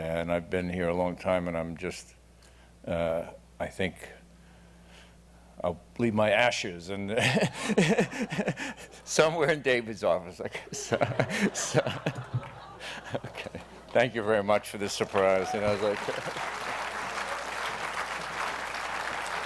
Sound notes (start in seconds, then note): 7.2 laughs; 13.0 laughs; 16.5 applause